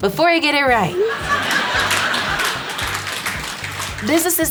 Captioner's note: audience laughing